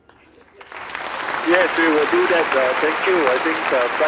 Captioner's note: applause